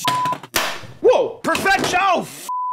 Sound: beep; beep

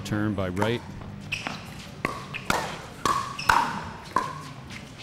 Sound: ball bouncing

